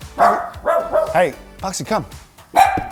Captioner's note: dog barking